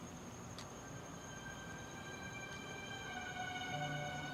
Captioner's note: slow suspenseful music plays; night sounds, crickets can be heard